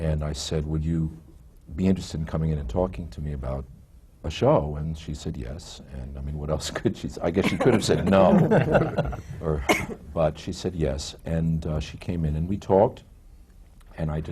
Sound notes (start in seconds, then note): 7.4 laughs; 9.9 laughter